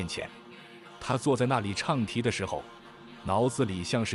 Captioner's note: chanting